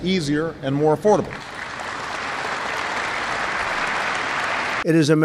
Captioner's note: applause